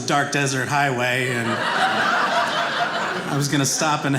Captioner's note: audience laughing